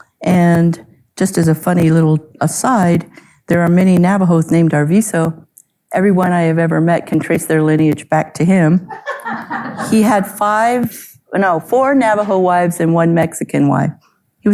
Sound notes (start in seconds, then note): 8.8 audience laughing